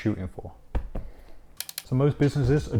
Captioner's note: palm hitting sofa; camera clicking